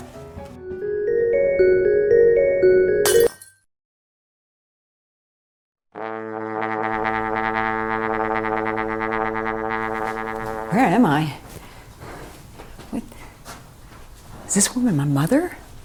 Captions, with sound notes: (cheerful music) (ornament shattering) (horn resonating) - Where am I? Is this where I'm a mother?